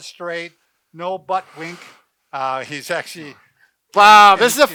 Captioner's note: laughs